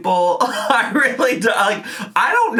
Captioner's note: laughing